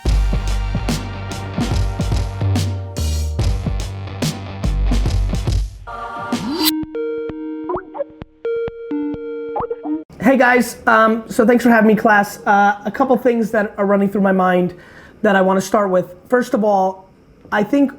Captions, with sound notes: (heavy drum and bass music) (Skype call rings) Hey guys um so thanks for having me in class. A couple things that are running through my mind that I wanna start with. First of all I think